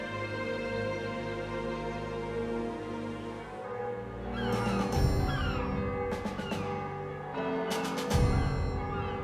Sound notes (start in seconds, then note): 4.2 gulls screeching; 4.3 bells tolling